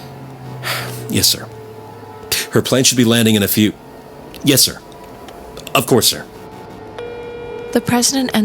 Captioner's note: sighs; beep